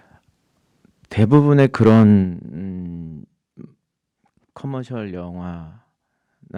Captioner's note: speaking in Korean